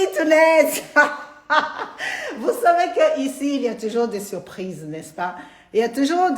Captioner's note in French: Rires